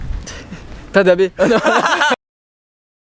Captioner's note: laughter